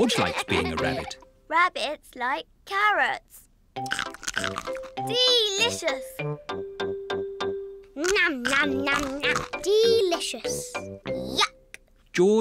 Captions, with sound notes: George likes being a rabbit. Rabbits like carrots. (CRUNCHES) Delicious! (CRUNCHES) Delicious! Yuck!